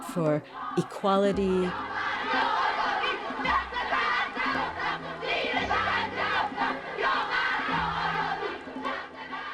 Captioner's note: soundbite of archived recording